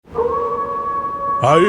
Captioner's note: wolf howling